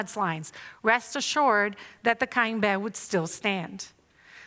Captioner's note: non-english speech